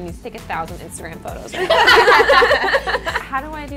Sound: girls laughing

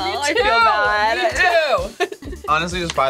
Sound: laughs

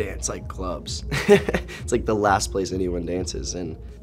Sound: laughs

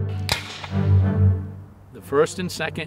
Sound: light music; rifle resounds

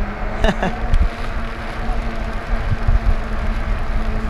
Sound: laughs; motor whirring; pedaling noise; wind blowing

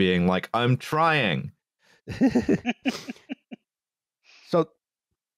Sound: laughter

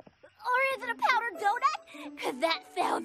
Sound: gasps

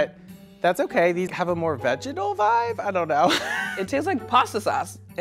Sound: laughs

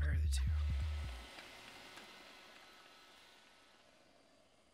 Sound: hoover passes

